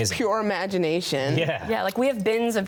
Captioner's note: chuckling